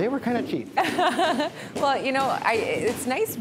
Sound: laughing

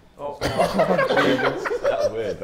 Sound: laughs

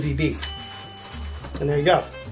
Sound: bell dings

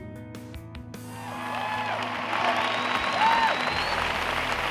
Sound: applause

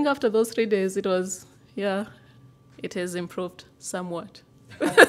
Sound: laughter

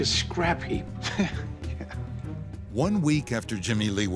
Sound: man chuckles

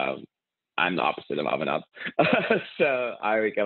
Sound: laughs

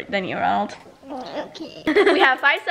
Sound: laughs

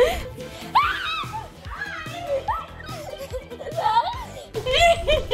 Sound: laughing; screaming; laughing

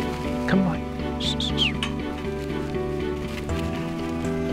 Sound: whistling - To encourage the dog

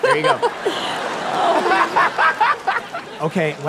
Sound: laughs

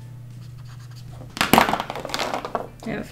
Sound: markers clatter

